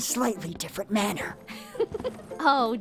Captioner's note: Lizbeth giggles